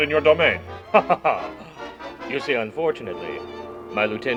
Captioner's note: laughs